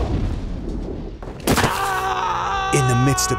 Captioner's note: bang; smack